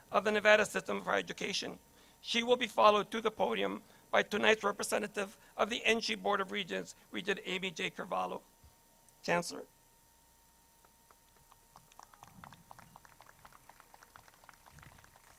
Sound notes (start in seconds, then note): 11.1 crowd claps